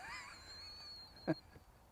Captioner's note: laugh